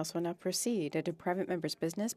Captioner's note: speaking French